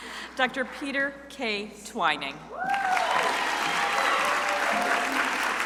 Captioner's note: crowd applauding